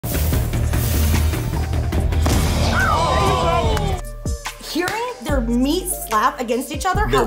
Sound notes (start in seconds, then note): 0.0 intense music; 2.6 everyone exclaiming